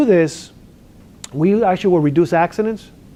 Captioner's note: lips smacks